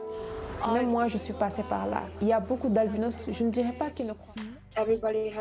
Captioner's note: speaking french